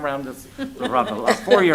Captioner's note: laughter